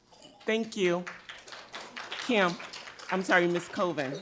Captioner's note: audience applauds